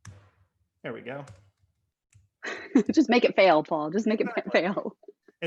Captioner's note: laughter